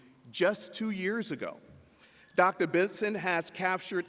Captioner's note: none